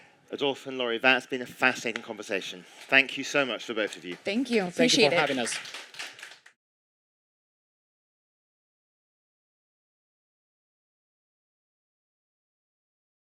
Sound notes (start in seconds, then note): 4.6 applause